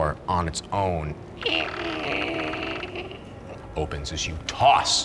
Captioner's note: door creaks